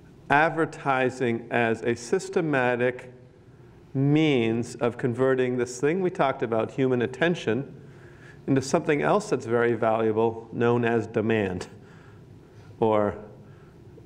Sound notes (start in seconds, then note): none